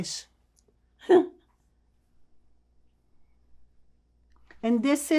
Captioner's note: laughing